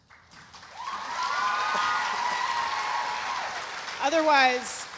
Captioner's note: audience applauding